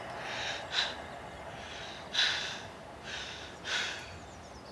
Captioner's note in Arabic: لاهث